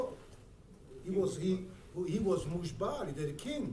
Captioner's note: speaking in foreign language